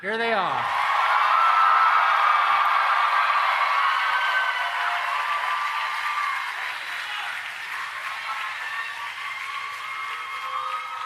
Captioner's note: cheering and Applause